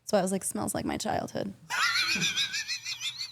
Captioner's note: Stephanie and Dylan laughing